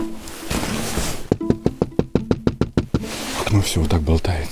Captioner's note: knocking